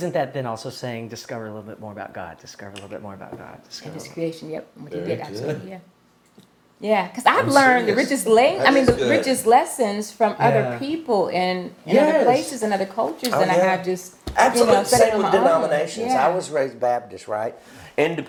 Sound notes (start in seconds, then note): none